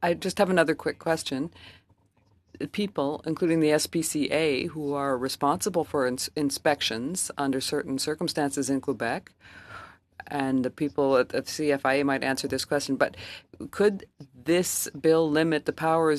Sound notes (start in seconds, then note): 5.3 speaking French